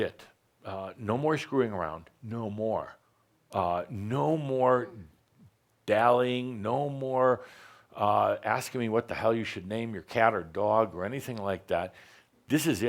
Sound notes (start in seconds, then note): none